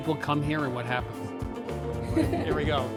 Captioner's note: laughs